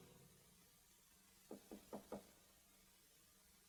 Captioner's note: knock on door